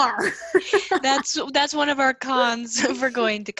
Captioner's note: shhh shhh